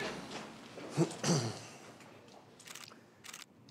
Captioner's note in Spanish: Ruido al pararse todos